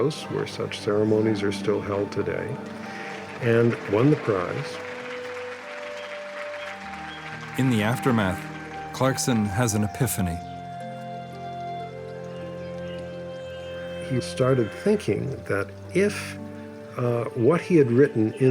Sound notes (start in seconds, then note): 4.8 audience applauding; 4.8 gentle music